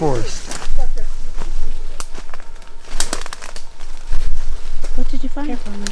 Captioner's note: vegetation crackling